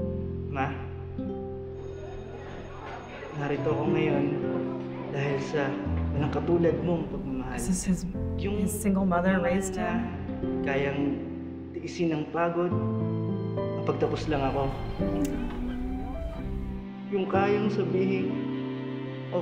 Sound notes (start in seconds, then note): 1.8 school bell rings, ambient chatter; 3.6 speaking Filipino; 10.0 speaking Filipino; 17.0 speaking Filipino